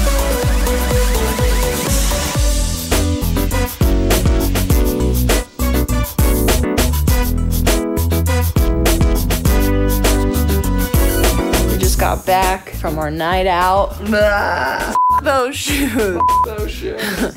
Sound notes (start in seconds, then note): 3.0 playful music; 14.9 beep; 15.2 yells